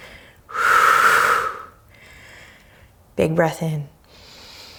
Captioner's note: deep breaths